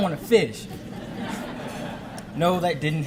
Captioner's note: audience laughing